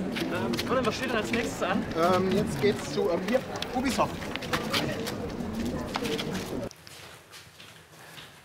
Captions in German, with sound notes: Colin, was steht denn als nächstes an? Ähm, jetzt geht's zu, hier, Ubisoft. (Stimmengewirr)